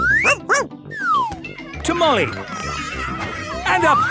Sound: barking; shouting

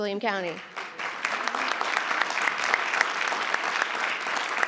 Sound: crowd clapping

